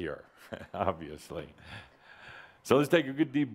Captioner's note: chuckling